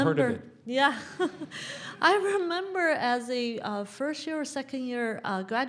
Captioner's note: laugh